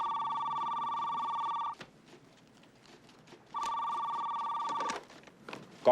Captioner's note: telephone Ringing